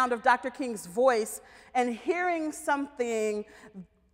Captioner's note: none